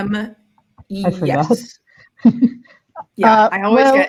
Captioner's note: chuckles